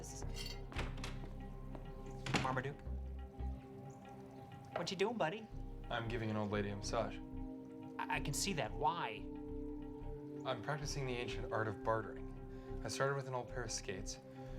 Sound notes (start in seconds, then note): 2.2 door shuts